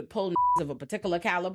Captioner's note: beep